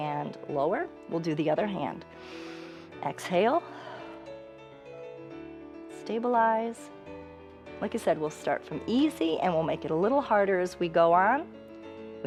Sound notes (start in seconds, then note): 2.1 inhales; 4.7 exhales